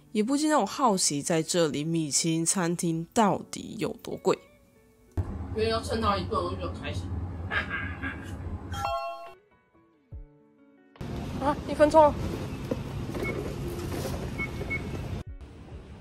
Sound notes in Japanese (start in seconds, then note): 7.4 ハハハ